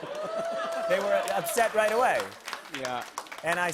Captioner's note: applause